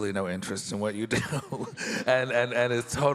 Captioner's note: laughs